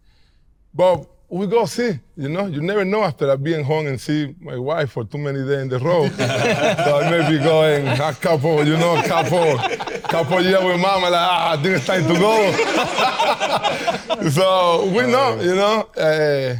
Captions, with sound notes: But we gonna see, you know? You never know after I being home and see my wife for too many day in a row. (all laughing) So I may be going a couple, you know, a couple year with Mama, like, "Ah, dude, it's time to go!" (more laughter) So we know, you know?